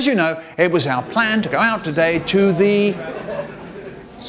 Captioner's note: people Ambience Fading In